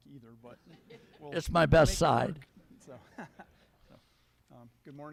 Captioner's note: laughter; laughter